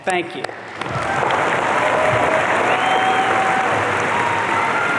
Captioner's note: audience cheering